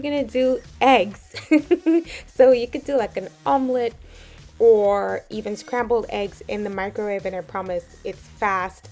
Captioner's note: laughs